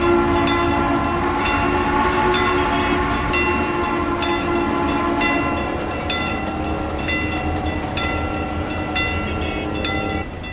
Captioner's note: CNJ Blue Comet Pacific whistle, wig wag ringing; ringing stops